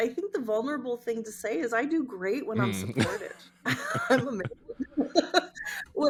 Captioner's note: laughing